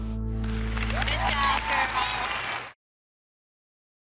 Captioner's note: audience applauding